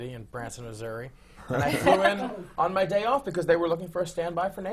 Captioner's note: laughter